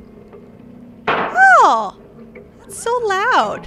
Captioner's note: loud firecracker